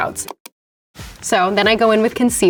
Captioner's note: mouse clicks